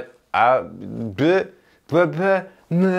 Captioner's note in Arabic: تلعثم